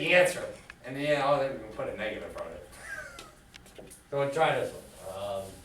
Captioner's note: laughs